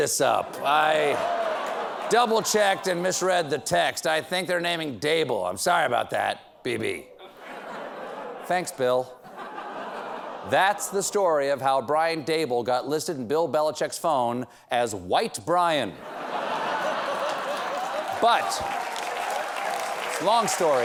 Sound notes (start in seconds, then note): 16.0 laughter; 16.8 applause